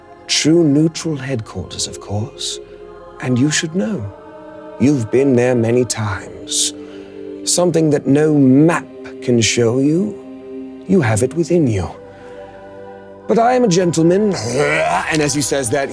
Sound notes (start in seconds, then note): 0.0 light thrilling music; 14.3 Damien gurgling